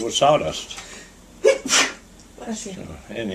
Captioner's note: sneezing